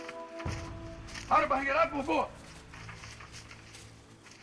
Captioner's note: shouting in native language